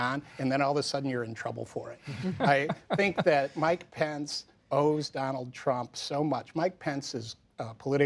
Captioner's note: laughter